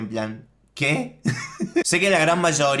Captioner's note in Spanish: Risas :v